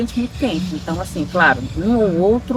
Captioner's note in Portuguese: som de pássaros e música ao fundo